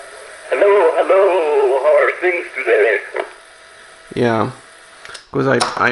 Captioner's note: wobbly recording